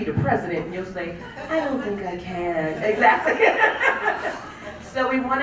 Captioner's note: laugh